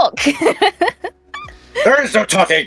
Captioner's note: laughing